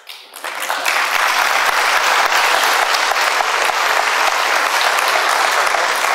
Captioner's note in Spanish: aplausos